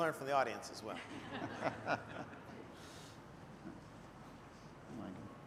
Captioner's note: laughter